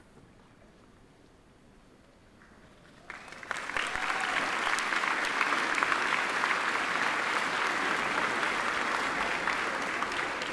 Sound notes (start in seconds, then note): 3.0 attendees applaud